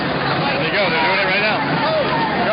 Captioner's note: voiceover